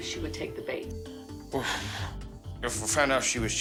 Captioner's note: exhales